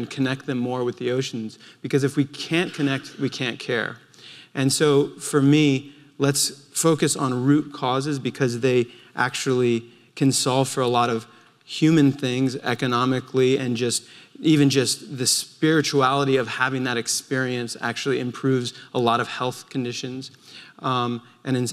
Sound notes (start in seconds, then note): none